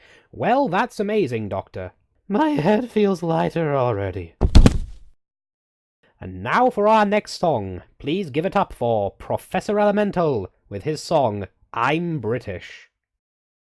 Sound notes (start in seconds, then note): 4.4 the sound of a body falling